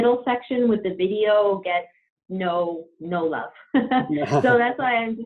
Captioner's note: laughs